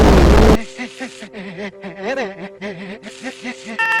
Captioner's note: heavily distorted noises; "heh-heh-heh" panting in both directions